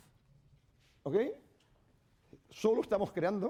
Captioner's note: speaking spanish